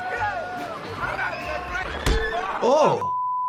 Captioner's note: metal clangs